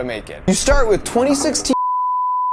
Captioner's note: beep